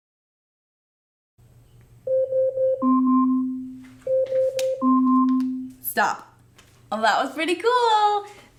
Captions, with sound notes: (alarm going off) stop, that was pretty cool.